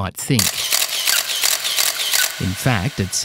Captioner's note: camera clicking